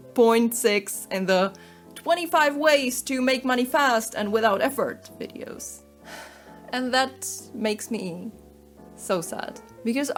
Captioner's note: sigh